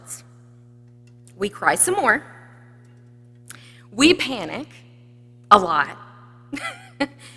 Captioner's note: laughs